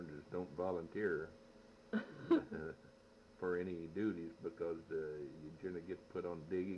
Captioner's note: laughs